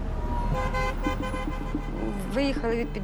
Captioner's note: horns honking